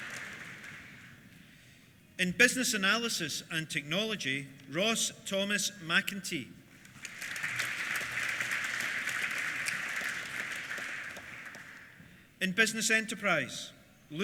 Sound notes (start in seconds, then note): 6.8 applause